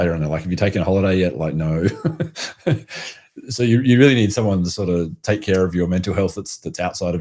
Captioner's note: laughs